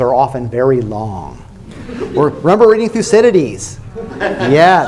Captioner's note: laughter